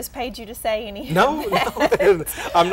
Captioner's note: laughter